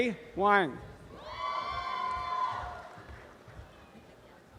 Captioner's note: applause and cheering